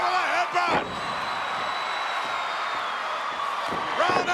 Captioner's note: crowd cheering